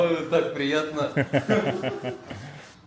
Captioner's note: laughs